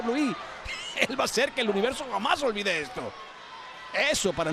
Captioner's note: laugh